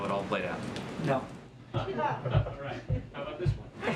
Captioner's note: laughter